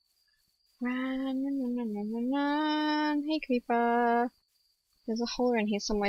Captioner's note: none